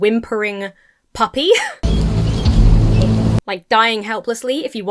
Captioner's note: wheezes; dramatic music